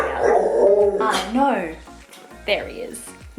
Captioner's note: Kobi snuffles